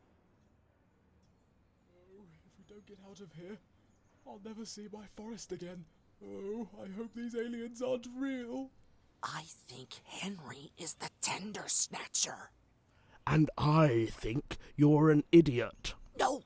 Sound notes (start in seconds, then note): 9.3 whispered